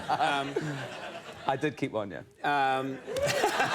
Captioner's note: audience cheering; audience applauding